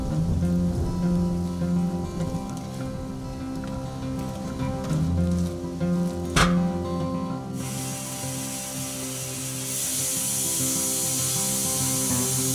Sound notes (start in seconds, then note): 7.6 saw running